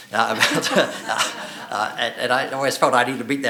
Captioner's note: laughing